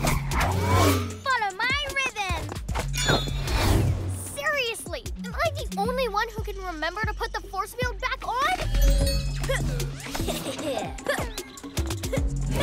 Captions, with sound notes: Follow my rhythm! Seriously? Am I the only one who can remember to put the force field back on? (Evil chuckling)